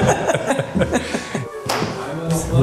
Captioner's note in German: Lachen